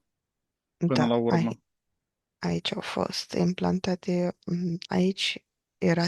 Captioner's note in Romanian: voce dreasă